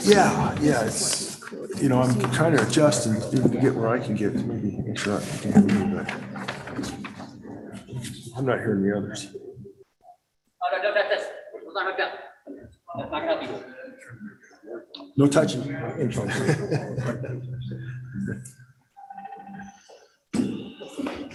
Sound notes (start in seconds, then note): 10.6 non-english; 16.2 laughter